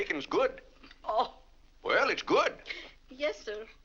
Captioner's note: laughs